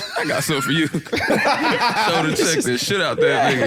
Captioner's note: laughing